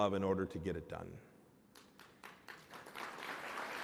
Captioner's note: applause